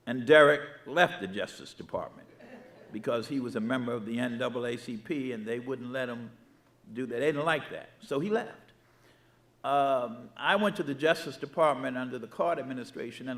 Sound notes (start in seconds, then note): 2.4 audience laughing